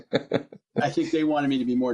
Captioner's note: laughs